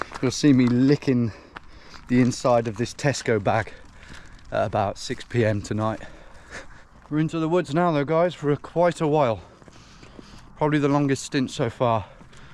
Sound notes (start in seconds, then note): none